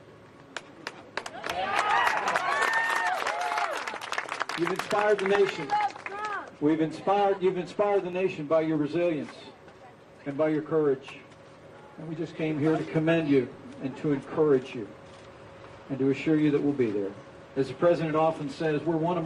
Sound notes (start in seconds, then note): 5.7 applause